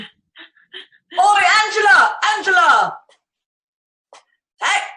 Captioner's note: shouts from off